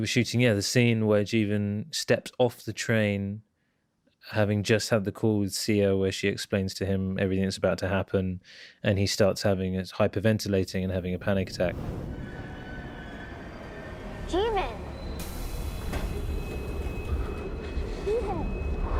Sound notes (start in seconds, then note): 12.0 train screeching; 12.0 wind howling; 15.5 train doors opening; 16.7 jeevan hyperventilating